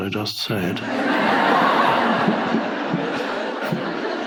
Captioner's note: audience laughing